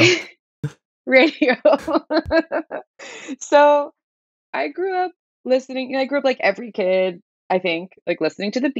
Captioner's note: laughter; laughter